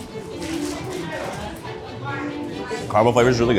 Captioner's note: gentle upbeat music; people chattering